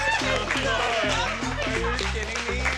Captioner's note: overlapping chatter